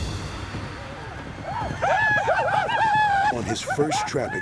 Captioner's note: yelling